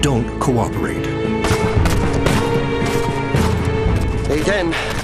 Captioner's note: gunshots bangs